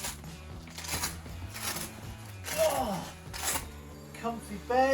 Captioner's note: leaves crunching